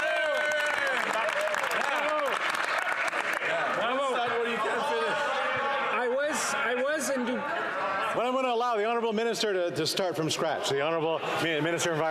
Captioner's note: some Applause